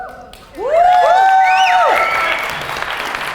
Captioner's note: audience cheers